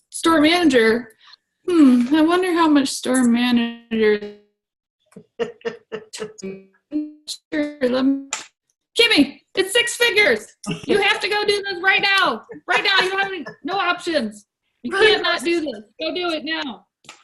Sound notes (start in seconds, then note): 5.2 laughs